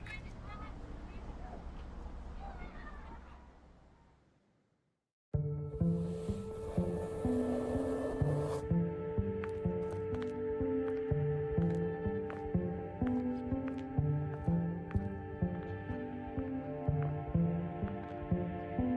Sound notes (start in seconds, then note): 4.9 subtle music; 7.8 wind blowing; 9.3 foot steps